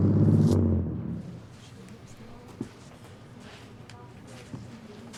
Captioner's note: group chattering